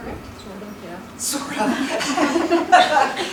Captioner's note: laughter